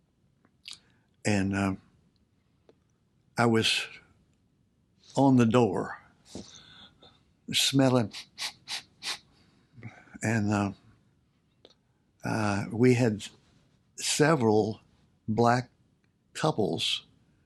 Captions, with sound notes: And, uh, I was "on the door" Smellin' [SNIFFS] And, uh Uh, we had Several black couples